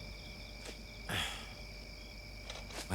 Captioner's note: sighs